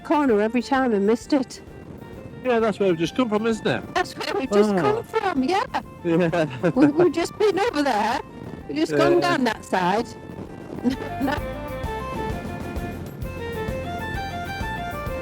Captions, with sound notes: corner every time and missed it. Yeah, that's where we've just come from, isn't it? That's where we've just come from, yeah. (LAUGHS) We've just been over there. We've just gone down that side.